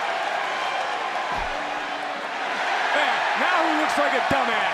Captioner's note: crowd cheers